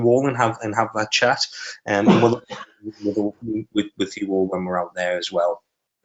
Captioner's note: coughing